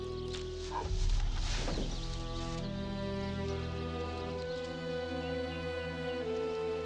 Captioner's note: ground thuds; Eli groans